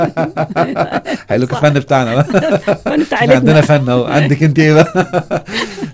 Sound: laughs!

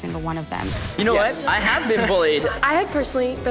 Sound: chuckles

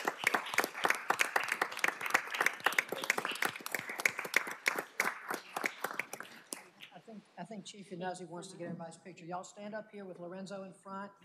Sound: applause

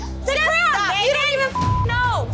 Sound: arguing

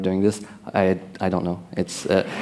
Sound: laughter

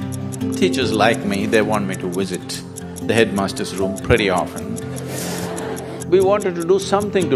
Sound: laughter

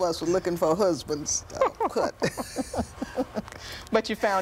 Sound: laughter

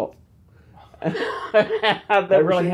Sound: he laughs

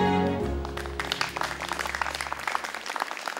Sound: clapping

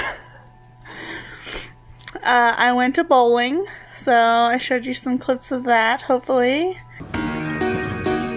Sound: laughs

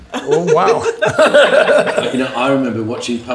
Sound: group laughs

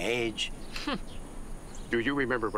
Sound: laughs

